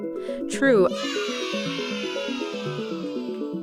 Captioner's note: children cheering; intriguing music